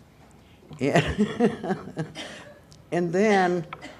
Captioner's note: laughter